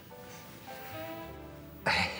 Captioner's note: chuckles